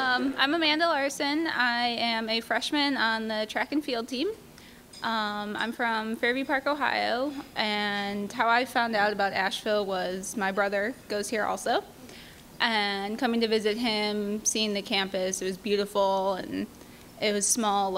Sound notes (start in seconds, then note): none